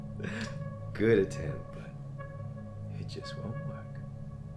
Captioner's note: Captain Brookes giggles